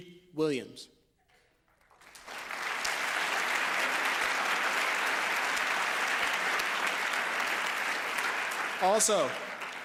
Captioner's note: applause